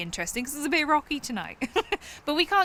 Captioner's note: chuckles